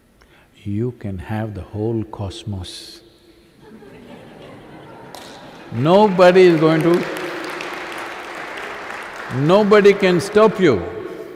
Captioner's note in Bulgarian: смях